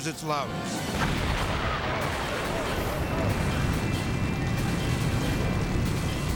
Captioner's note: tense music; fire booming